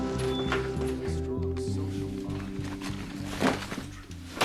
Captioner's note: MAN CHATTERlNG ON TV